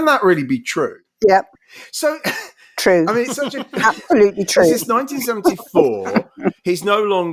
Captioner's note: laughs